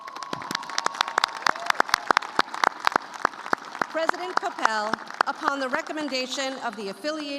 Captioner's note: cheers and applause